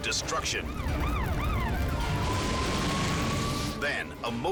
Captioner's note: sirens screaming; scene swooshing